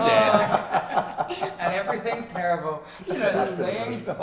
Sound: chuckles

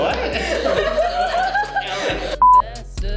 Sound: more hysterical laughter

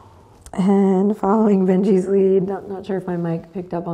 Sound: Benji exhales

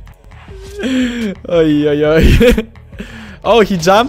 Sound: laughs

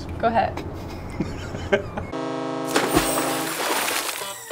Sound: laughs

